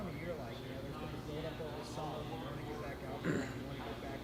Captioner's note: faintly speaking